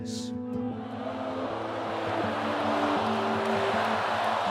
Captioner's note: audience booing